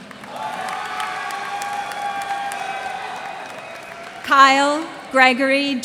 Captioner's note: cheers and applause